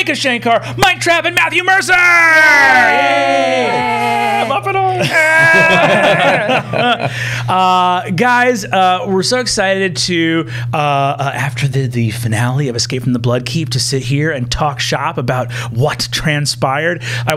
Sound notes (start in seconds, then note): 5.0 laughter